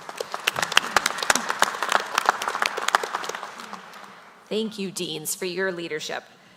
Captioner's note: applause